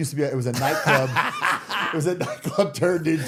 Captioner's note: people laughing